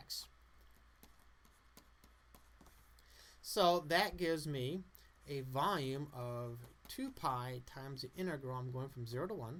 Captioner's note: background writing noise